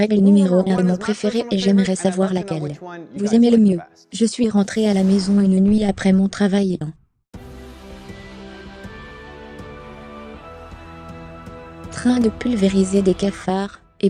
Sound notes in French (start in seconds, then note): 4.7 Swoosh